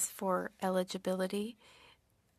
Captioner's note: speaking French